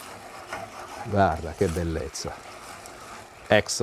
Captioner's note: speaking Italian